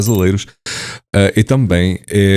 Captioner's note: breaths in Portuguese